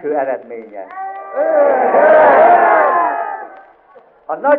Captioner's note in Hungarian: éljenzés